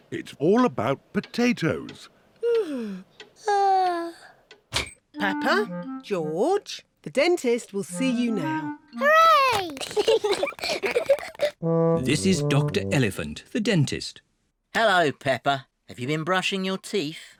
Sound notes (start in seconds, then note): 2.4 yawns; 9.7 both giggle